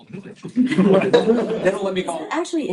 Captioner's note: laughter